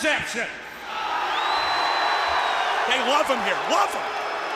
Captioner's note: crowd cheering